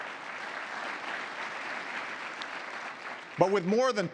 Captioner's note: applause